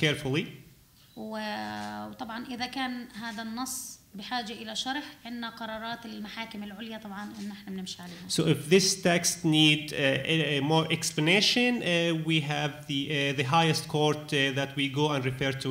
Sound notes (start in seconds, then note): 1.2 speaking arabic